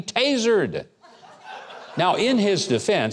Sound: crowd laughing

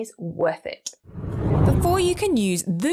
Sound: air whooshes

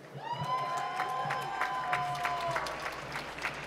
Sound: applause

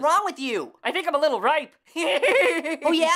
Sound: guffaws

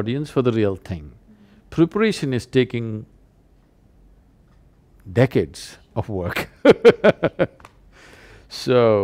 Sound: laughs

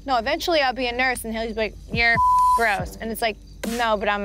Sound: beep

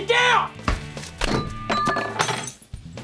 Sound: clanking

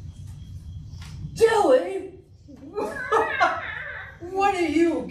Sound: laughing; meows

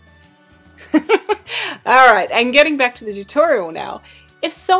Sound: laughter

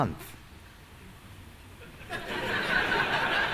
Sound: laughter

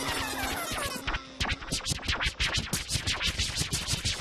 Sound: record scratching; beat drops

